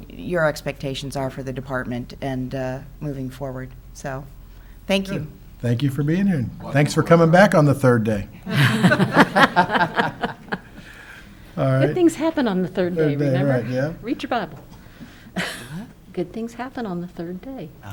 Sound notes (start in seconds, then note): 8.4 council laughs